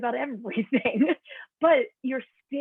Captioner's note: laughter